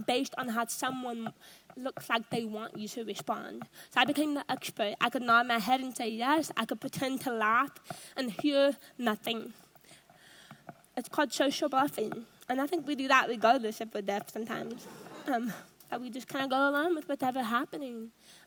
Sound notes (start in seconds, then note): 14.8 audience laughs